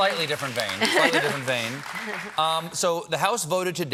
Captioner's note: applause